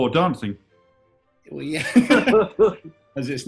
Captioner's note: laughter